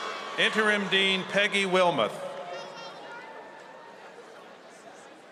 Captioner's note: cheers and applause